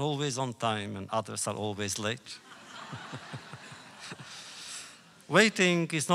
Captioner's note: laughter